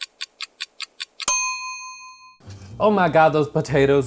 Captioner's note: ticking